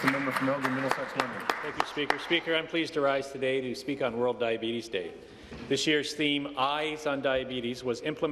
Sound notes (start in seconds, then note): 3.0 applause